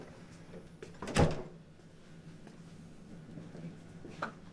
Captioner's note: door closes